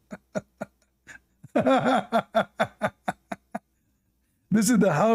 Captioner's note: Ketawa